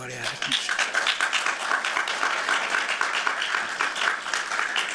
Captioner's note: applause